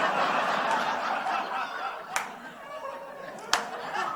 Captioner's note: slow clapping from offstage